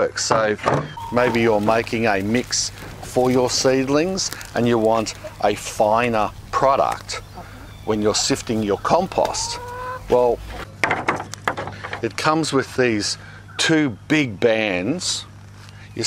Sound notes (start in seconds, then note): 3.8 chickens cry; 10.7 bands thud